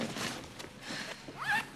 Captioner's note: sighs